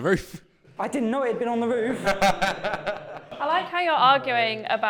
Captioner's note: laughter